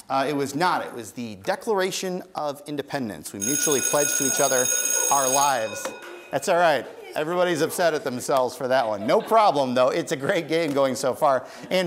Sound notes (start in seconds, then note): 3.4 bell ringing